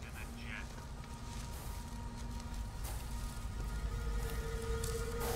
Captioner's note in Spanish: Respirando pesadamente